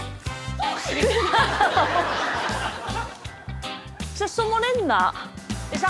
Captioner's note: gasps